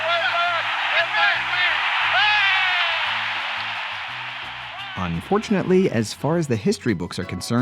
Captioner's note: shouts